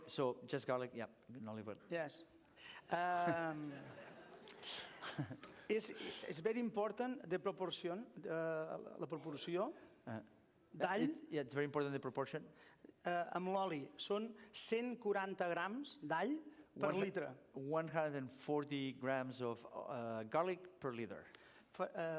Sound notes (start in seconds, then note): 9.4 non-english; 14.2 non-english speech